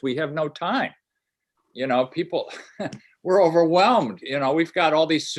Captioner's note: laughter